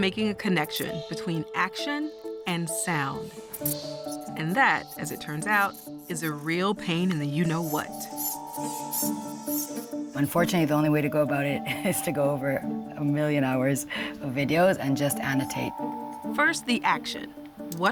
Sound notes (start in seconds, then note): 6.8 bats squeak